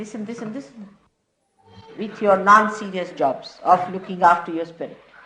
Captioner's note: laughter